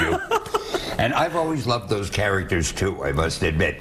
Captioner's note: laughter